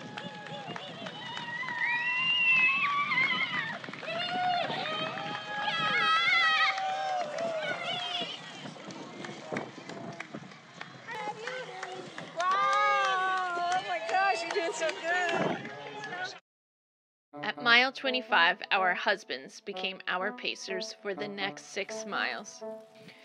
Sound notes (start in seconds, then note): 0.0 excited shouts and applause; 2.7 excited shouts and applause continue